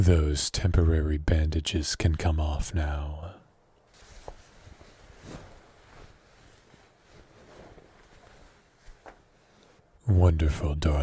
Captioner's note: bandages noises